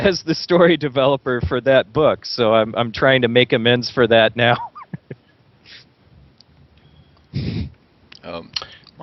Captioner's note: laughs